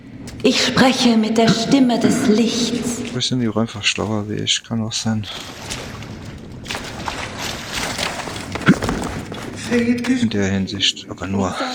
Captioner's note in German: räuspern